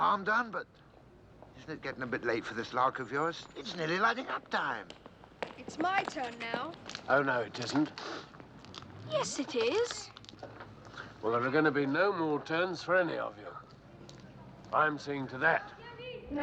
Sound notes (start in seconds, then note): 7.9 sniffs